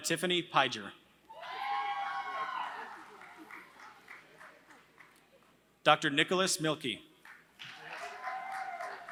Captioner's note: applause